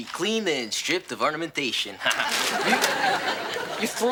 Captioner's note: chuckles